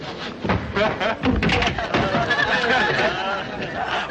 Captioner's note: crowd laughing